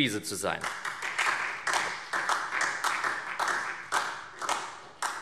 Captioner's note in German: Beifall SPD und Freie Demokraten